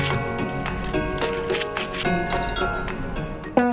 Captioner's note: rattle rattle rattle; bottle clinking